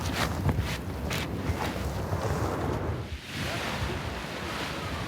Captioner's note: wind rustling